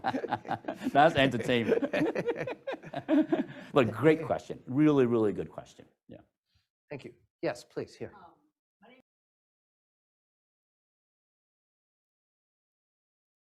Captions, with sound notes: That's entertainment. Look, great question. Really, really good question, yeah. - Thank you. Yes, please, here. (no audio present)